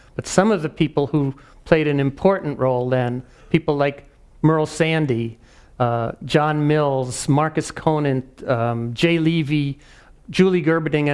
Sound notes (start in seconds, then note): none